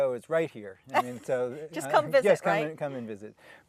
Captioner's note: laughing